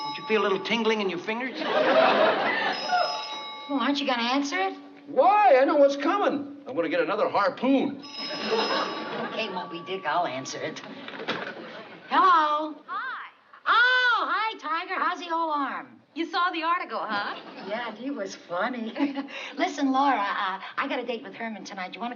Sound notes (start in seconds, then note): 8.0 phone rings; 13.0 on phone